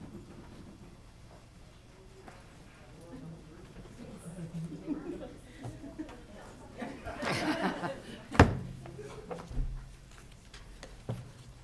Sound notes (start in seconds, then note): 3.4 participants chattering; 7.5 participants laughing